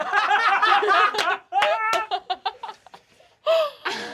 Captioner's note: laughter